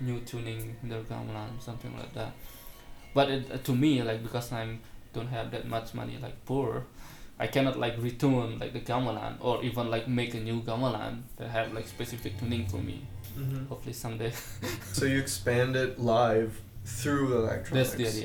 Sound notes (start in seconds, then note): 14.2 laughs